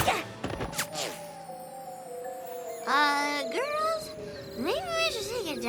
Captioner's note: tweet! tweet!; slurring